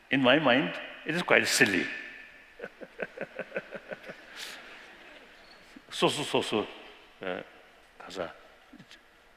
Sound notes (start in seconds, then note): 2.5 laughter; 5.4 non-english speech